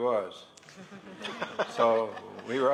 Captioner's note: laughter